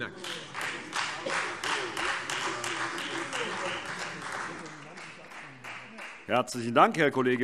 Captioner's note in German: Beifall Freie Demokraten und vereinzelt SPD